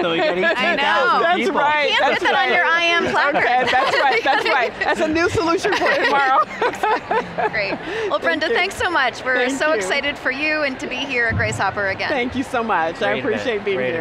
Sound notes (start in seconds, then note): 7.0 laughing